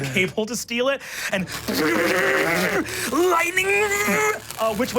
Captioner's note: imitates static shocks